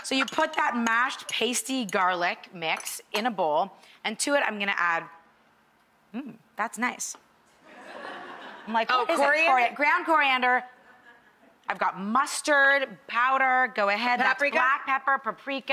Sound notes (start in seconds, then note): 7.6 audience laughs